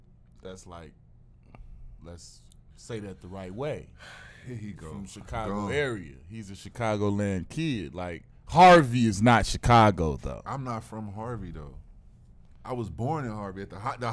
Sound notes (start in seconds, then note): 3.7 sighs